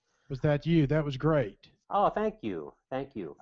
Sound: voiceover

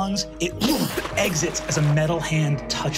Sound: blows air

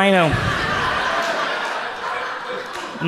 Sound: audience laughs

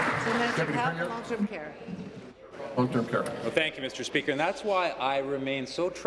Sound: applause

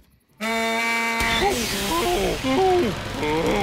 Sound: honking

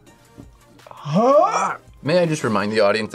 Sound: gags

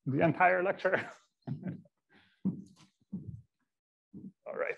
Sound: he chuckles

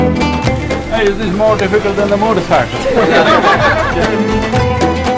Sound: laughter

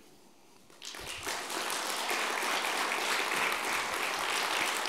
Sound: audience applauding

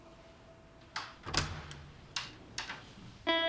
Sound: door opening

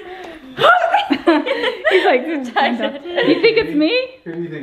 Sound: laughs

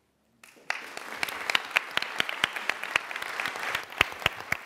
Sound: applause

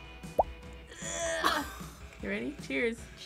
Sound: React laughs

